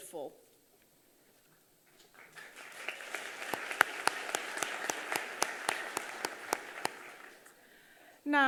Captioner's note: applause